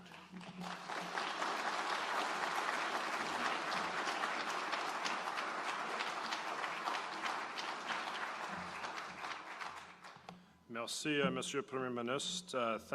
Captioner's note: applause